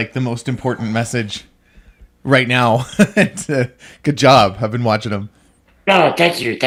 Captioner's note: laughs